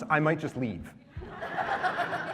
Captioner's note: laughter